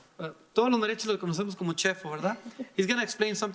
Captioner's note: speaking in foreign language